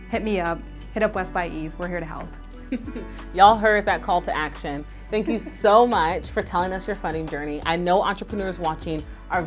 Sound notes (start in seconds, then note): 2.6 chuckles; 5.2 chuckles